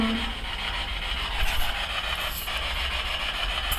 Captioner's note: static buzzing